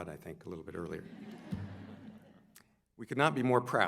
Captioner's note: audience laughs